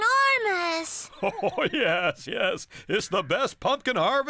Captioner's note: chuckling